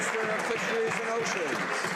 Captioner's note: some Applause